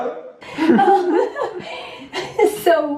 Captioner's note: laughter